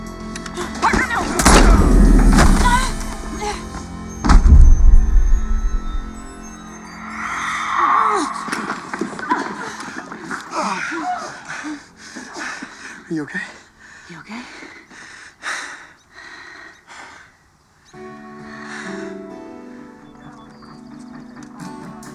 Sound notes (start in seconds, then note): 7.3 yelping in protest; 9.5 wincing